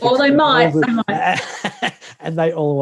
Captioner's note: laughs